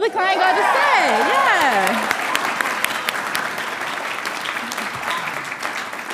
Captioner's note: audience cheering and applauding